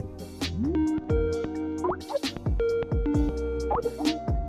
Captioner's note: Skype ringing sound